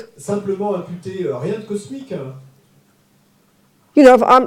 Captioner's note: French